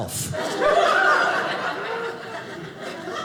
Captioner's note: audience laughing